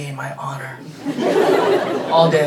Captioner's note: everybody laughing